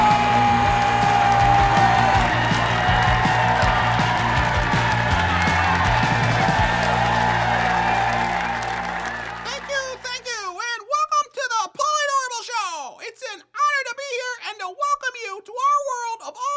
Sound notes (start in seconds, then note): 2.6 cheer/applause